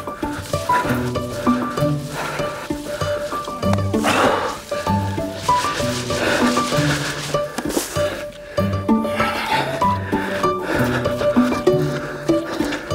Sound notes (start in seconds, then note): 0.2 whimsical music; 9.1 puffing